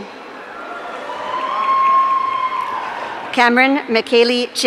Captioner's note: audience cheering